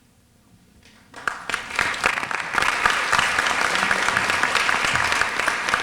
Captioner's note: applause